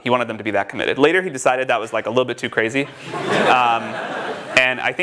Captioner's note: сміх в залі